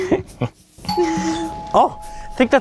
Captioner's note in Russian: динь дон